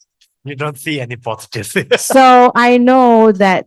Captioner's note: laughters